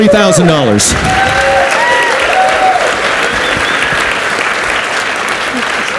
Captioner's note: audience cheers and applauds